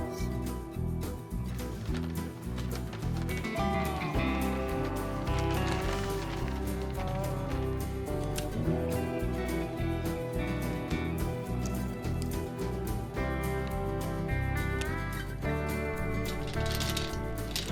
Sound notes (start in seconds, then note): 1.4 paper crinkling